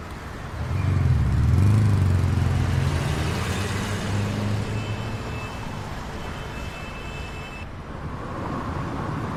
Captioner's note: street noises